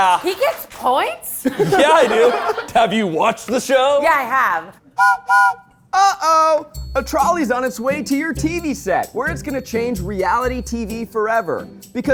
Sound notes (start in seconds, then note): 0.0 crew applauding; 4.9 whistle blows